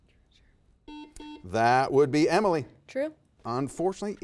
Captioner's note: buzzer beeps